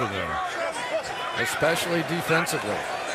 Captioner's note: shouting